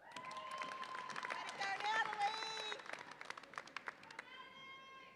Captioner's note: audience applauds and cheers